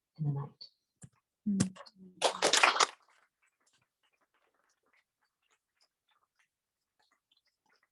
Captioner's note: applause